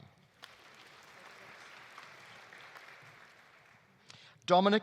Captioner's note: audience applauding